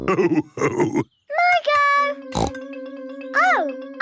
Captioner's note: snorts